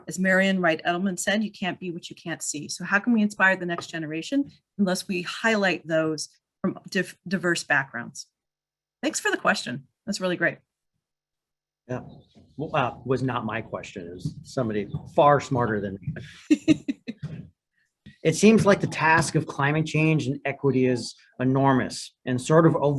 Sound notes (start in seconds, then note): 16.2 laughs